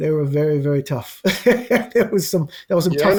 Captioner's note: laughs